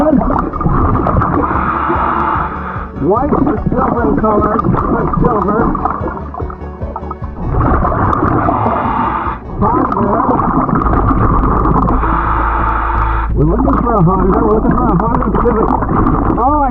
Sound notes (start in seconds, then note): 0.3 oxygen bubbling in water; 0.6 oxygen tank hissing; 7.3 oxygen bubbling in water; 8.0 oxygen tank hissing; 10.8 oxygen tank hissing